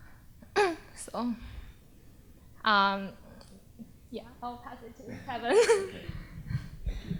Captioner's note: chuckles